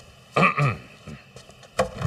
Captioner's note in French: Tousse